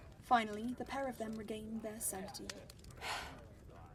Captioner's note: Marlene lets out a heavy sigh